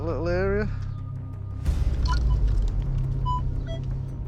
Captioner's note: beeping